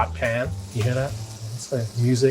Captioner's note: bacon sizzling